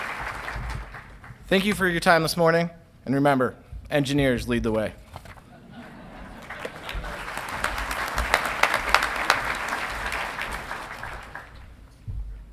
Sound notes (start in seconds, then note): 5.4 audience laughing; 5.8 audience clapping